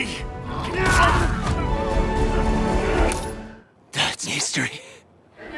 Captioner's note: fist thudding; grunting